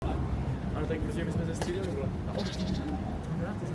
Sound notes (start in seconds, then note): 0.0 distant chatter